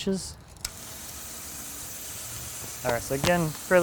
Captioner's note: saw whizzing